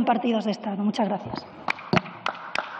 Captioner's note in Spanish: Aplausos